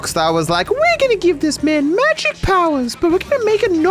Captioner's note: high pitched voice